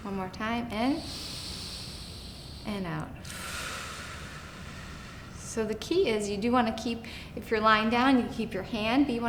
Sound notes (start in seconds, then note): 0.9 inhaling slowly; 3.2 exhaling slowly